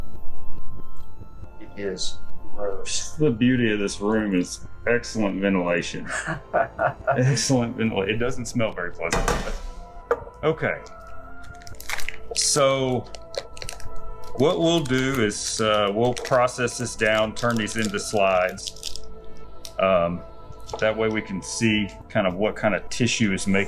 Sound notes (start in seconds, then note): 6.0 laughing